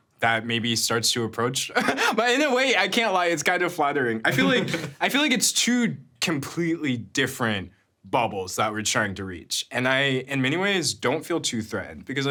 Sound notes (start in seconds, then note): 1.7 chuckles; 4.3 chuckling